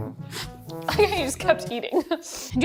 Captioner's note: laughing